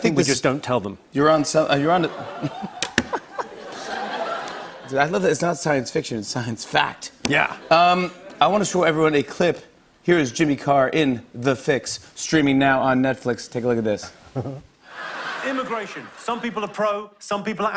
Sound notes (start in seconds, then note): 1.9 laughter; 14.3 chuckles